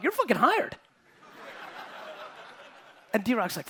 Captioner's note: audience laughing